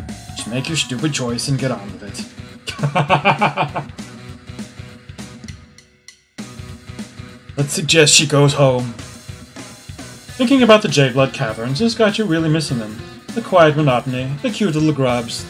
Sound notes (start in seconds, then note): 2.6 laughs